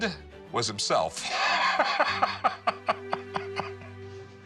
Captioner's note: laughs